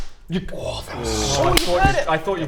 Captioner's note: clap!